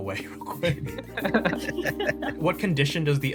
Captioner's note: laughs